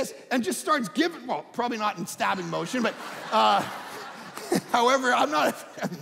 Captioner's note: audience laughing